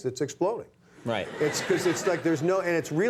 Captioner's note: audience laughing